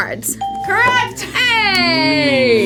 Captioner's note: bell rings